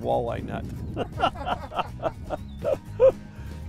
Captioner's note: laughing